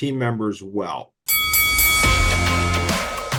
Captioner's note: bell rings; upbeat music